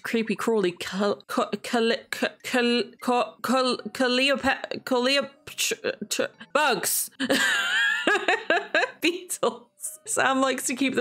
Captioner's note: laughs